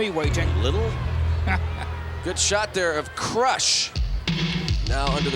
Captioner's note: laugh